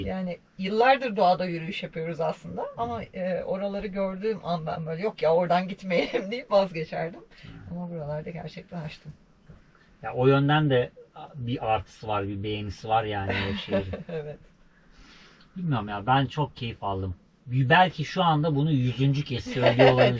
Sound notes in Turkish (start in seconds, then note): 13.2 kahkaha